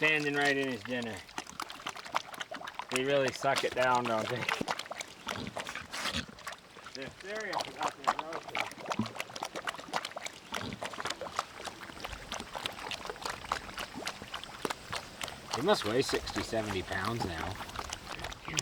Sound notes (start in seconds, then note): 8.3 pigs slurping